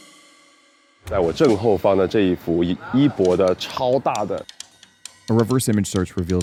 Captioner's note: man speaking in a foreign language